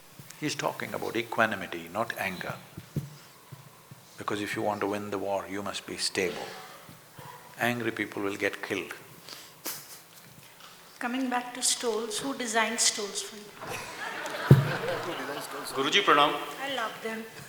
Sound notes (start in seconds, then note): 10.0 laughs; 13.6 laughter